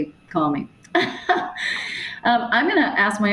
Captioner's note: chuckles